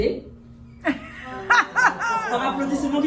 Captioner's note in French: rires